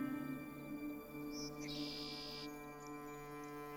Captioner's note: birds chirping